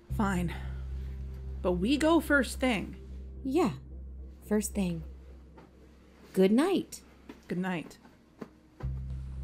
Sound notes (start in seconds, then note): 7.0 blankets and pillows rustling; 8.4 blankets, light switches off, music fades